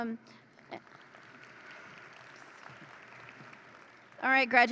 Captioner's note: audience applauds